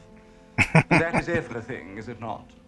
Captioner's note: chuckling